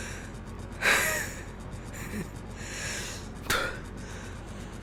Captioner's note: laughs